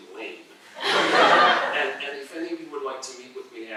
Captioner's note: laughter